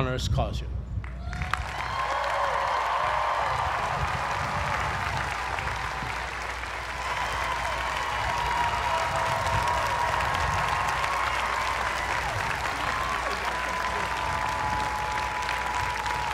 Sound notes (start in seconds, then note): 1.0 applause